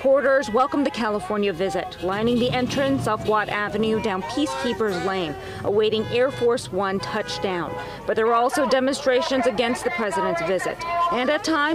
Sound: cheers

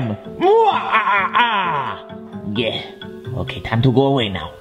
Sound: laughs

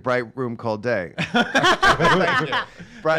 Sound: laughing

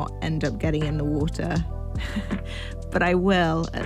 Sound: laughs

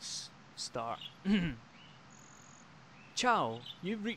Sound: clears throat

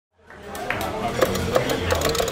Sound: crowd chatters; joystick moves

